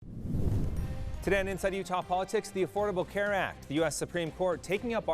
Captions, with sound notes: (air whooshing) (upbeat music) Today on "Inside Utah Politics", the Affordable Care Act,